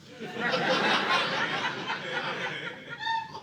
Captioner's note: audience laughing